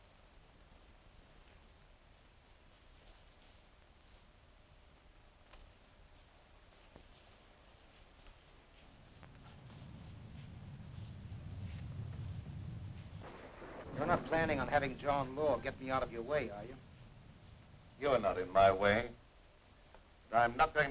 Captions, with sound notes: (thunder rumbling) (rain pattering) - You're not planning on having John Law get me out of your way are you? - You're not in my way but I'm not going